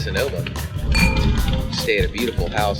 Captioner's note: wine glasses clink